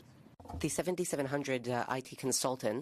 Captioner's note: speaking French